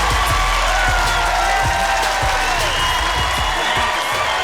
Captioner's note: cheers and applause